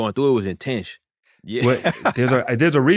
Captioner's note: laughter